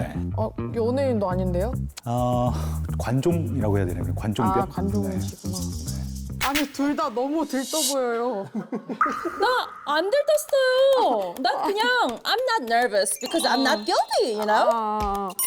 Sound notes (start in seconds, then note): 4.7 sound effect of it being incurable